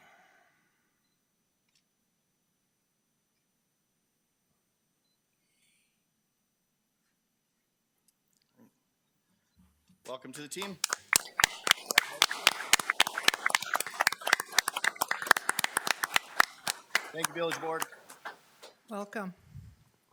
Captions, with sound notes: All right. Welcome to the team. (attendees clapping) Thank you, Village Board. You're welcome.